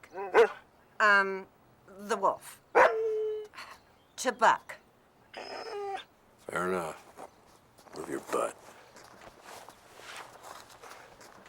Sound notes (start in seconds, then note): 0.3 Buck barks; 5.3 Buck whines